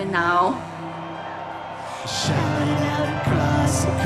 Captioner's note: cheering